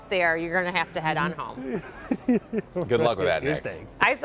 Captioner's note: laughter